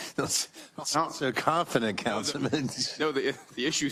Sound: laugh

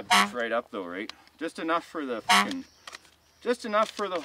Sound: horn honks; horn honks

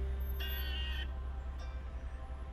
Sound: vehicle honking

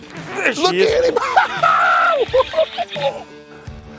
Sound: laughs

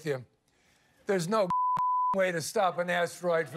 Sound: beep

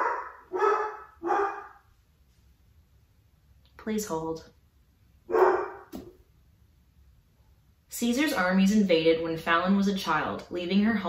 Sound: dog barks again

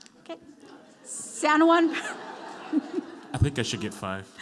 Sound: laughs

